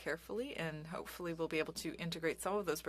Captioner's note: speaking French